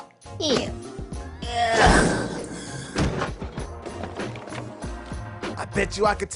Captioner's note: slam!